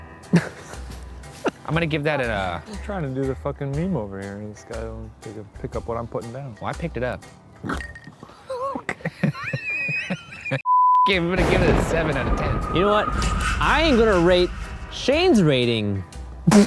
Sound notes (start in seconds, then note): 0.3 laughs; 8.2 laughing; 8.5 laughs; 9.5 screen beeps; 16.4 laughs